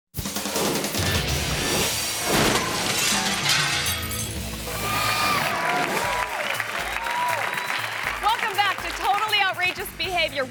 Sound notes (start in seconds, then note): 0.2 upbeat music; 4.6 audience applauding and cheering